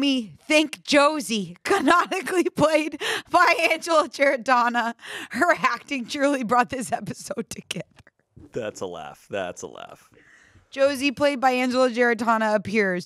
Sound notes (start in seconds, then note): 8.5 laughs